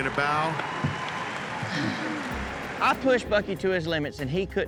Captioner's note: crowd cheers; sighs in relief